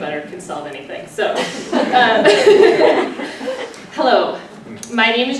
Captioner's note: laughter